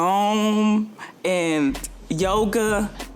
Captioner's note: taps hands